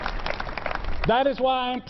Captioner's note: applause